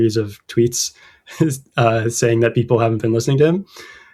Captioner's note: uh; laughter